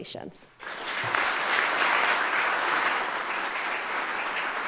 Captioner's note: audience applauding